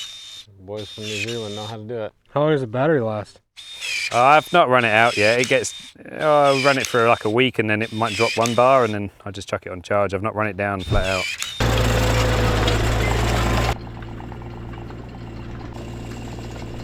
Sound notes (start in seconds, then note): 10.8 machine running